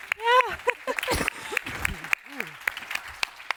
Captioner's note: applause